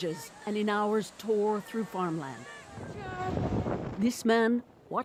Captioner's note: speaking alternate language